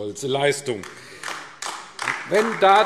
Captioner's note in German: Beifall AfD